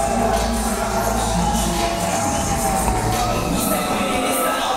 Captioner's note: crowd cheering and whistling; rap music continues